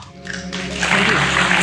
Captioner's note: applause